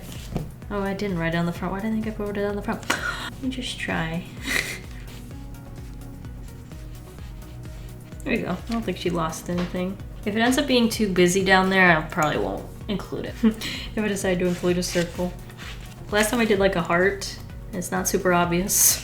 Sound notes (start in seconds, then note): 4.4 chuckles